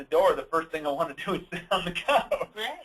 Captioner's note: laughs